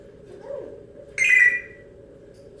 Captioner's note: phone ringing noise